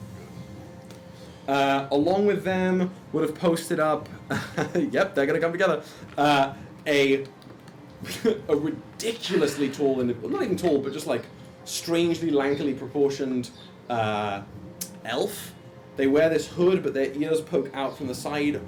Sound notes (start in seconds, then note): 4.2 laughs